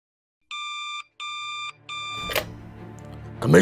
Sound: beeping

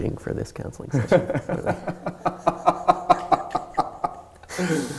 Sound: both laugh

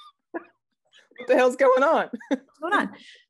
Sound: laughing; laughing

